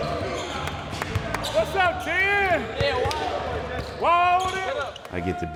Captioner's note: claps